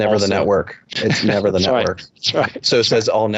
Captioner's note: laughing